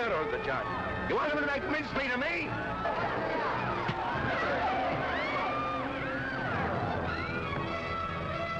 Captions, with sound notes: But you're making a hero of the judge. You want them to make mincemeat of me? (crowd clamoring)